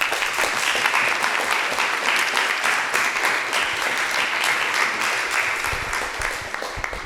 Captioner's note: applause